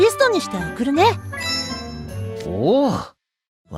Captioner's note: ring